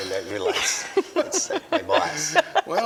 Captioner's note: laughter